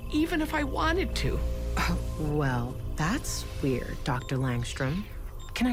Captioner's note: scoffs